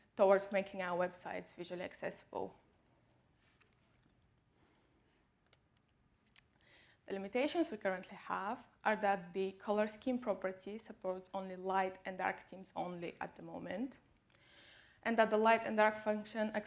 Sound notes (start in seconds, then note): 2.9 clicking